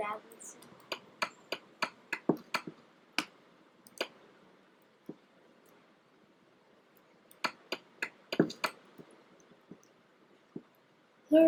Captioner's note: mining noises